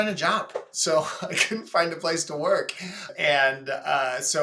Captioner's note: chuckles